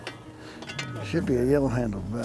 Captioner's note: shovel scraping